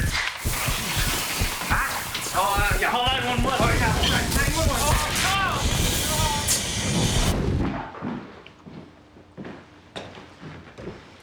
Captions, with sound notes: Ahh! - Uh, call 9-1-1. - Oh yeah... 9-1-1! (both yelling)